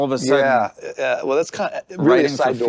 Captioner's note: mumbles